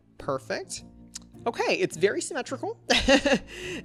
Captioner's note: laughs